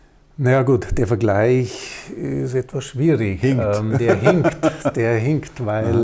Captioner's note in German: lacht